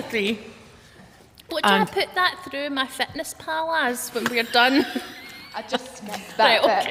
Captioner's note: laughter